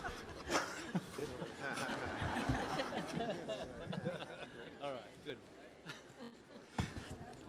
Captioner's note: laughter